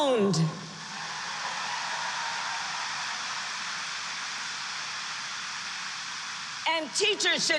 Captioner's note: applause